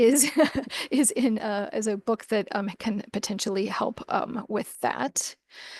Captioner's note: laughs